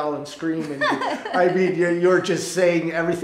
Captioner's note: Jane laughing